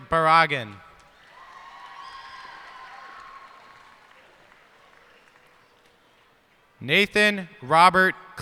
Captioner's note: cheers and applause